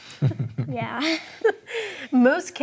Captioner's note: all chuckling